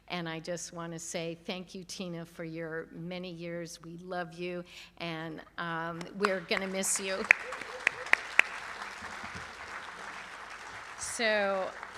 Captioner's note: applause